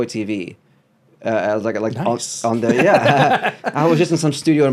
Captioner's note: laughs